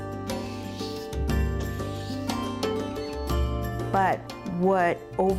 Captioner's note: sweeping Sounds